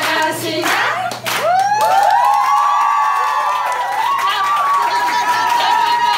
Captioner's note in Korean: 환호성